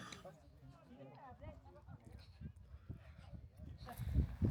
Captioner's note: people chattering